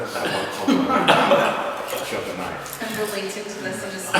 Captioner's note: laughter